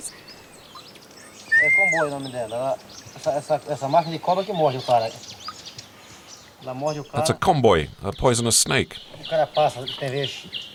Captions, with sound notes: [Portuguese spoken audio] It's a poisonous snake.